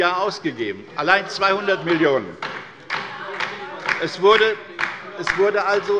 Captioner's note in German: Beifall bei der LINKEN